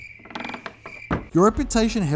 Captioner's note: crickets chirping